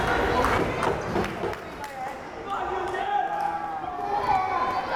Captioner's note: crowd chatter